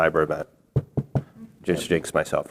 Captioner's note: knocks on table